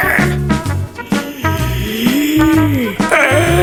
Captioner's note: screaming